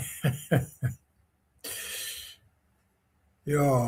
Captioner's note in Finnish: naurua